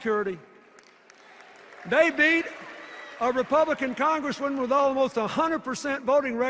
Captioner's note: applause and cheers